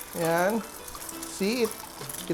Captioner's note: sizzle